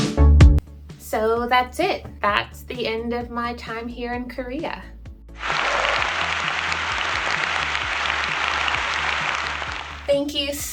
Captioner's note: audience clapping